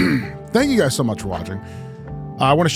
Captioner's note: clears throat